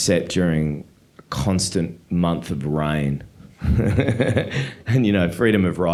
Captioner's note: laughing